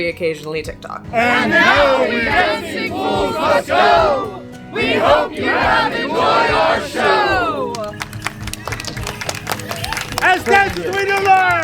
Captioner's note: applause